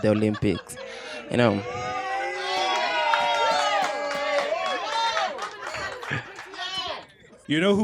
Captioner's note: laughter